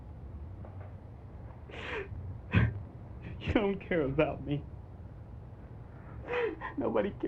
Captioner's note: sobs